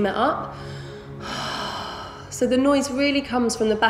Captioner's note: heavy breathing